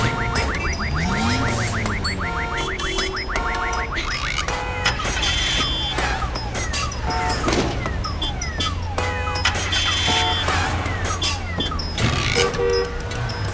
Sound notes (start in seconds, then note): 2.1 rhythmic street noises